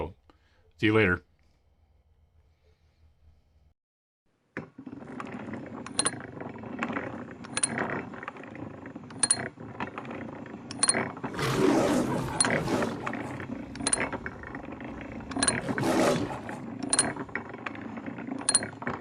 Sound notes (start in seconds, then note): 4.4 gears turning; 11.2 lion roring